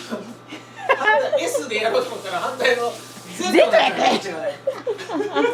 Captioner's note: laughs